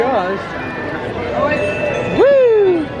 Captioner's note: magical ding